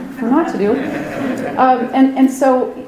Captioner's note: audience laughs